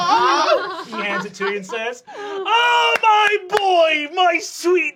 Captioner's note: loud, excited